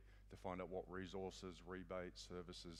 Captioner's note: none